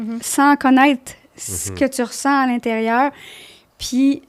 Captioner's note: in french